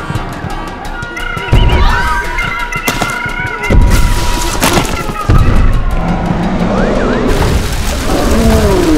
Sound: sounds of People Screaming in Chaos

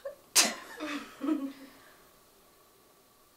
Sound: laughing

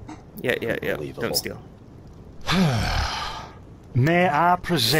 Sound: sigh

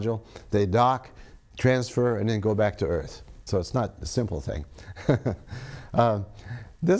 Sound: laughs

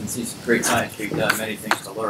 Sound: audio distorting

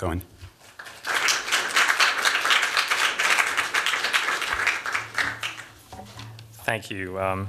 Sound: applause

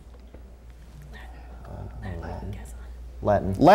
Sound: players whispering

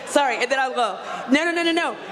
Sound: audience laughs

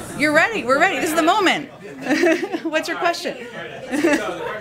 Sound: laughs

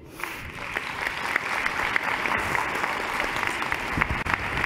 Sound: applause

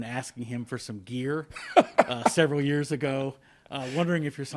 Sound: laughing

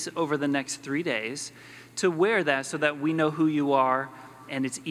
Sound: none

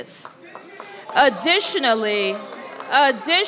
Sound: applause

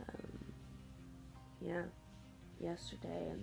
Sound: voice a bit raspy

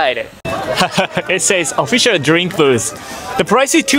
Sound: laughs

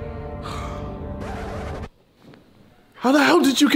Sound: record scratch sound

